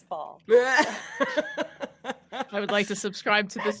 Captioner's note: all laughing